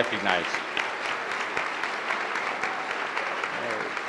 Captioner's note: applause